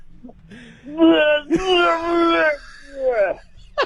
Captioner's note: Bill vomits